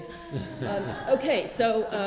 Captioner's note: laughter